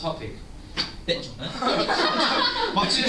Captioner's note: laughter